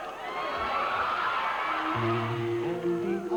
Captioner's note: audience booing